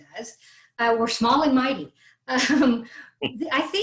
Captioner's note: laughs